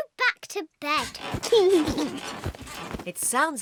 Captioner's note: laughs